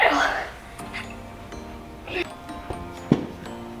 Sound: gasps

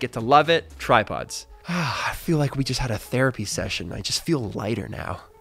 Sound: sighs

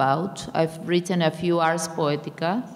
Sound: speaking in a foreign language

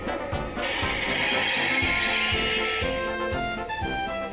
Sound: screeching; fun music

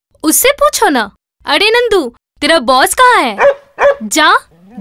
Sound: dog barks

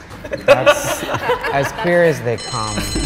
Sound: everyone laughing; bell rings

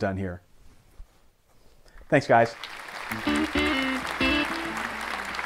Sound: walks off stage to applause

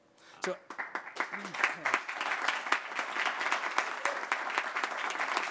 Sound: applause

